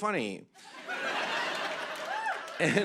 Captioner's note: laughter